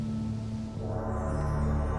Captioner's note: chimes; gong